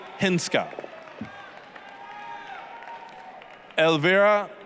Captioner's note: applause, cheering